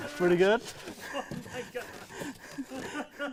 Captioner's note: both laughing